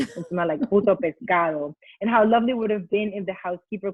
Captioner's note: foreign language spoken